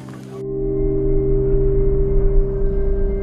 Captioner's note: stiff sounds, insect noises